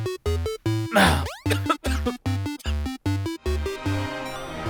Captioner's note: coughing